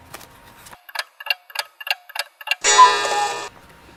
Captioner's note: tick, tock, tick, tock ...."cuckoo"